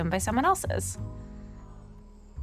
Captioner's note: breaths deeply